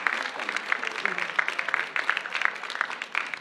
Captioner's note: cheers and applause